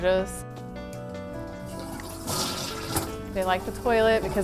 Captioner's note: toilet flushing